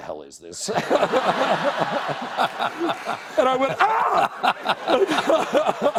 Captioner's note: laughter